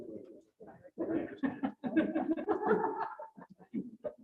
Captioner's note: laughing